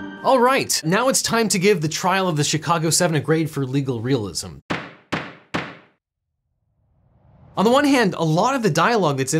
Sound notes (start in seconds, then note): 4.6 gavel pounds